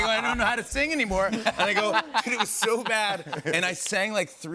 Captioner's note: laughter